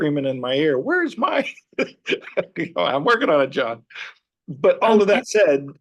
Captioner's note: laughs